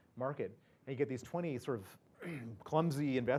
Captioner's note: cough